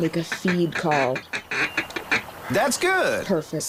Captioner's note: blowing call